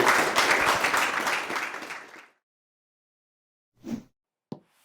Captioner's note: audience applauding; logo whooshing